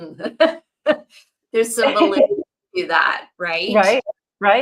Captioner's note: laughs